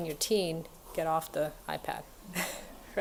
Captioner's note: laughs